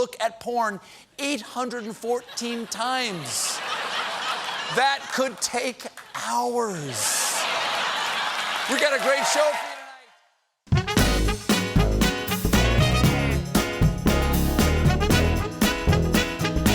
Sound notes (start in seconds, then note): 1.7 laughter; 5.6 applause; 6.8 laughter